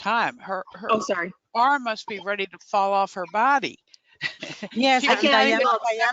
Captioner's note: chuckles